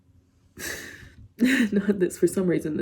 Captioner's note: inhales deeply; chuckles